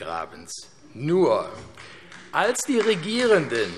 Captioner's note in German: Beifall AfD